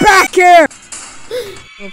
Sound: gasps

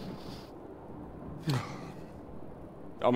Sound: smug sigh

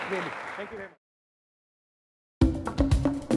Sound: audience applauding; upbeat drum riff

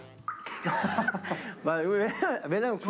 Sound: they can't help but laugh

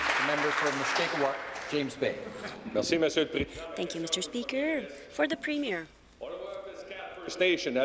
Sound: applause

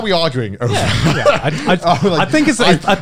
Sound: everyone laughs

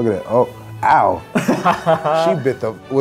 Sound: laughing

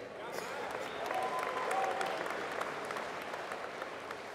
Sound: applause

